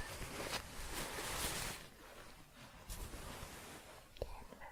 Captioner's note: shuffling